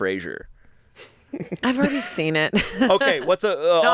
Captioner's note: chuckles